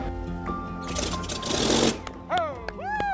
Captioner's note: engine sputters